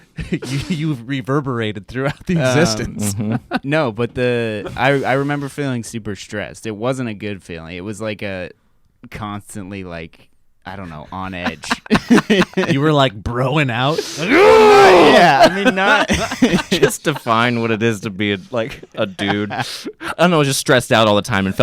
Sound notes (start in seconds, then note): 10.8 laugh; 14.2 roars loudly; 15.9 laugh